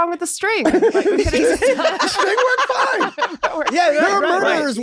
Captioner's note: everyone laughs